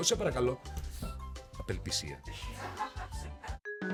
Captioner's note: laughs